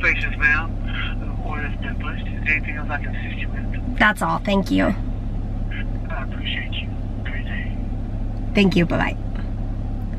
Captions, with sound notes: [voice on other end of phone] that's all thank you Thank you bye